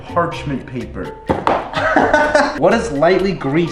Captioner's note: laughs loudly